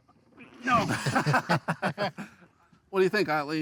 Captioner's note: everyone chuckles